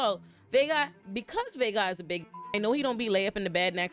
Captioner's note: beep